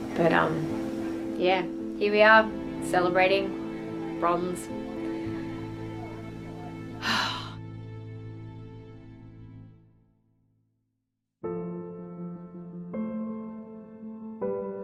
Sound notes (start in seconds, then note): 6.8 sighs; 11.5 soft gentle music